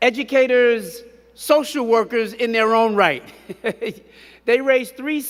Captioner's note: chuckles